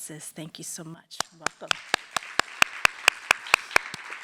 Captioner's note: applause